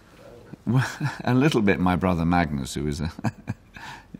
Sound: laughs; laughs

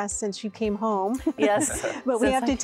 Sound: giggle; laughing

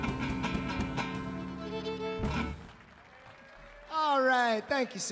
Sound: audience applauding

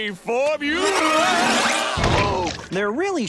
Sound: screaming

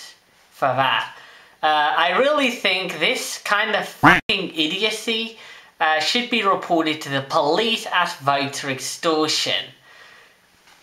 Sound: quack

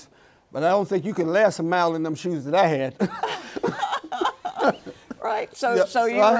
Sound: both laughing

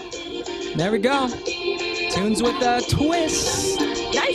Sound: speaking foreign language

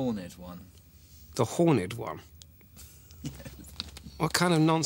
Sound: laughs

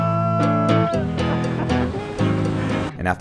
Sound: man laughing

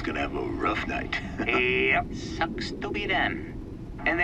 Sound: chuckles

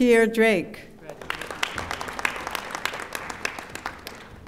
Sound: audience applauding

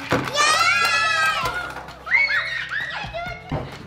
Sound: cheers

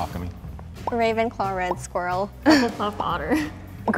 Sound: giggles; giggles

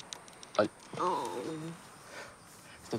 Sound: moans

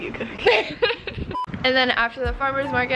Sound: laughs

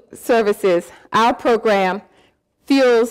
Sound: none

